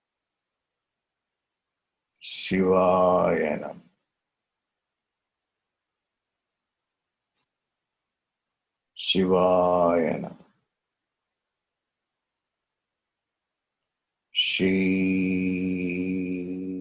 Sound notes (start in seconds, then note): 0.5 chants